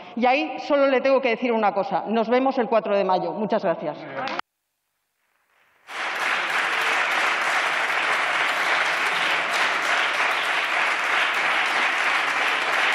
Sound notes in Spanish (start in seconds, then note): 5.7 Aplausos